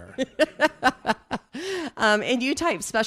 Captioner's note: chuckling